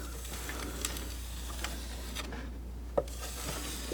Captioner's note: scratching